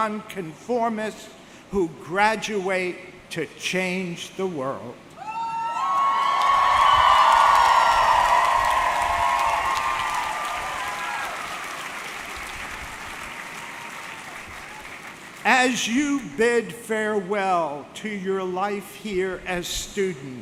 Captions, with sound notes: and non-conformists who graduate to change the world. (audience cheering) (audience clapping) As you bid farewell to your life here as students,